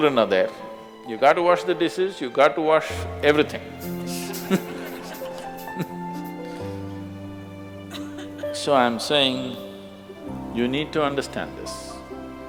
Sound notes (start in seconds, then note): 3.8 laughs